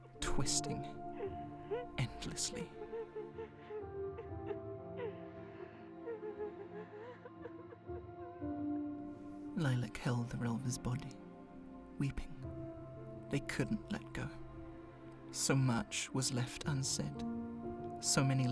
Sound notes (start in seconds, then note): 4.4 sobbing continues